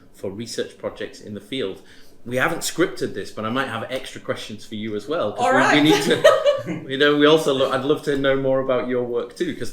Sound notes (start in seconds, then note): 5.5 laughs